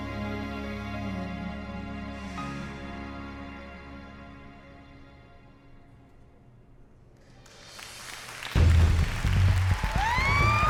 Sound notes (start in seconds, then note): 7.3 applause; 8.5 dramatic music